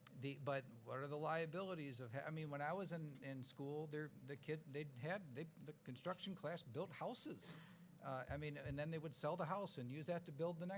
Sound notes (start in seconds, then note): none